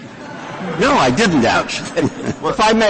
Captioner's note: laughter